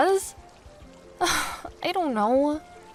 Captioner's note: sigh